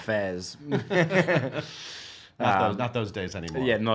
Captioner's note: laughing